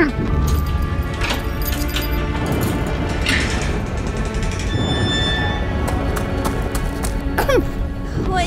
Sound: cage door swings open, running

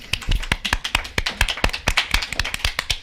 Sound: claps

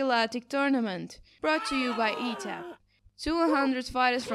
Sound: CONTESTANTS scream

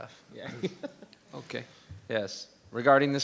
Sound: laughs

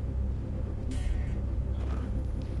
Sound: sound of Audio Distortion, coming from touching the laser

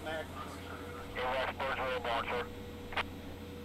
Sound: radio chattering

